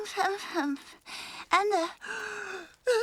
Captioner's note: yawns